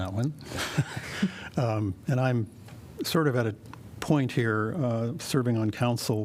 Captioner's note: laughter